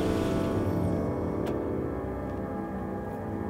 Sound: engine cuts off

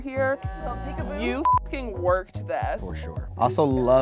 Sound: beep

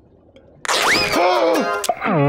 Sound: gasps

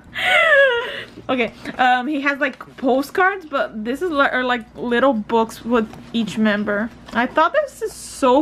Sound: laughs, breathes

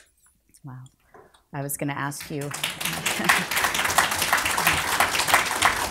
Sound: group applauds

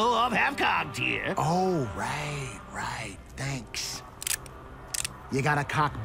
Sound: cocks gun

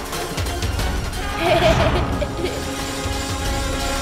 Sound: laughs

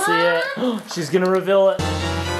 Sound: gasps; dramatic fanfare

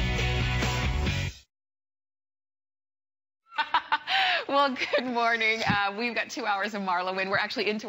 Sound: laughter

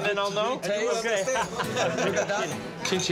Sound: laughs

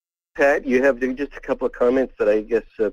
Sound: voiceover

